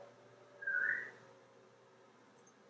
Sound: whistling in the background

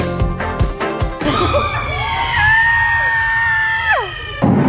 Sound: screams

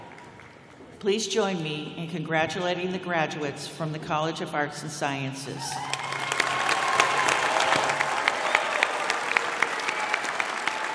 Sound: cheers and applause

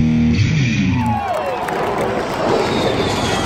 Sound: loud Jet Roars

